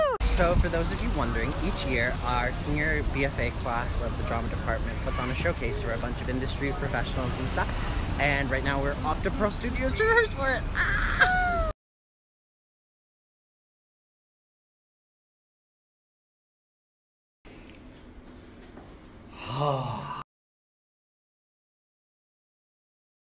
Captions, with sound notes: so for those of you wondering each year our senior BFA class of the drama department puts on a showcase for a bunch of industry professionals and stuff and right now we're off to Pearl Studios to rehearse for it *sigh of relief*